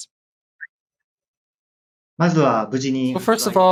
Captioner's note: speaking japanese